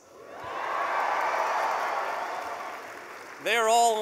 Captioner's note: cheering